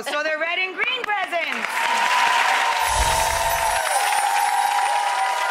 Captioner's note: audience cheering